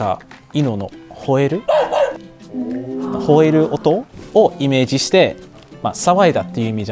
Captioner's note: the sound of a dog barking